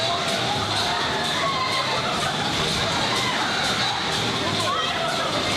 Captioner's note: people screaming